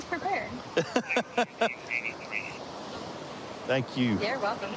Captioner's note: laughing